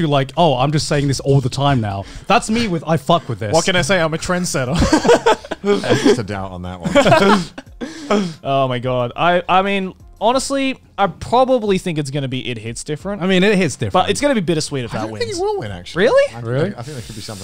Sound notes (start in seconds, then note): 5.3 laughing